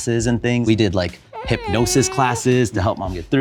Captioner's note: baby cooing; person chuckles